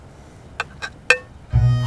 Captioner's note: Cutlery clinking